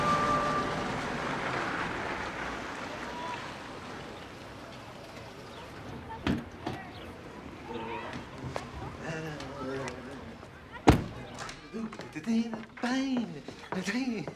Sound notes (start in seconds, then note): 7.6 humming; 11.6 continues humming